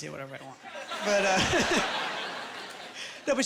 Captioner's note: laughing